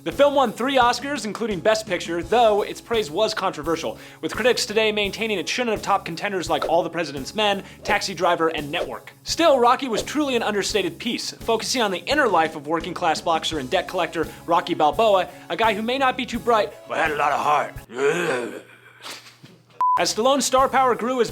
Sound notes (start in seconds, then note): 17.0 grunting; 18.7 laughter